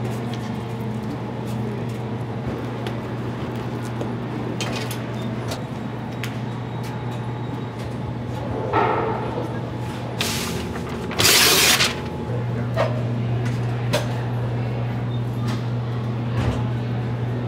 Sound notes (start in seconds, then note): 10.2 paper scraping; 12.5 background machinery continues humming